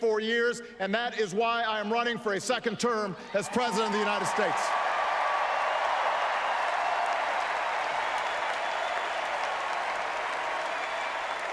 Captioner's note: applause+ "Four more years" chant